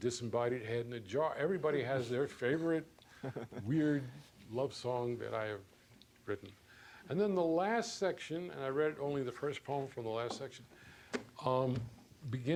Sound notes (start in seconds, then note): 3.1 chuckles